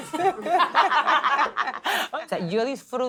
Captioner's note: laugh